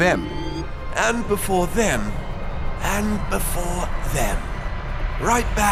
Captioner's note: imitates david attenborough